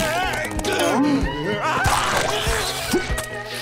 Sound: screaming

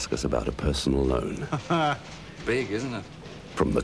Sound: chuckles

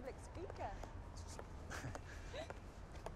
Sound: chuckles

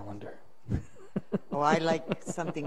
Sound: laughs

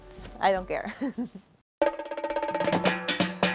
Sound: laughing

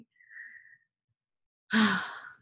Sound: sigh

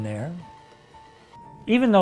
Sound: mixer whirring

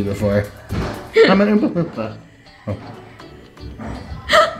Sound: laughing

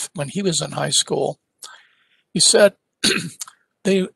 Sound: cough

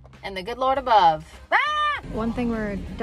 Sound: screams

